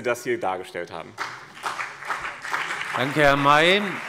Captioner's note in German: Beifall BÜNDNIS 90/DIE GRÜNEN und CDU